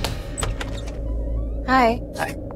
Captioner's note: Door opens